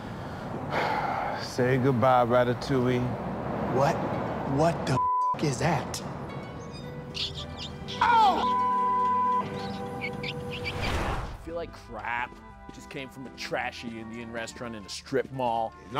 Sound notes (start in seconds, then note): 0.6 sighs; 5.0 beep; 7.1 mouse squeaking; 8.4 beep